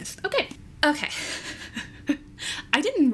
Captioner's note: laughs